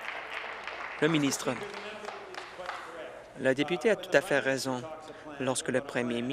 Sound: applause

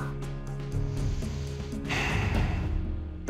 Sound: exhales deeply

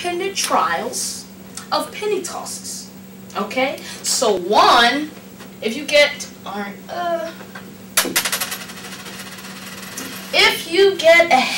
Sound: penny drops

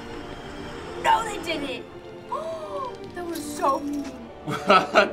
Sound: gasps; laughs

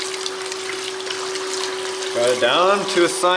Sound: water running

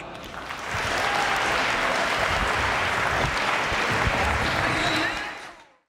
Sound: audience applauds and cheers

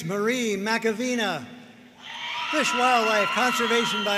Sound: audience cheering

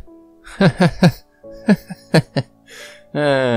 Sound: chuckles heartily

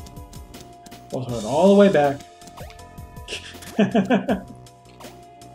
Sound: chuckles

